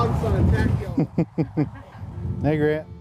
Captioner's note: laughter